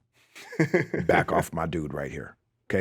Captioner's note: Justin chuckling